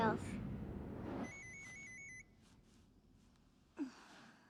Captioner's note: phone ringing